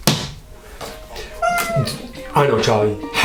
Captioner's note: Charlie squeaks